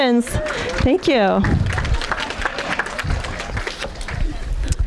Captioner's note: audience applauding